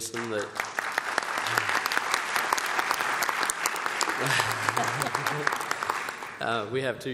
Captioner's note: applause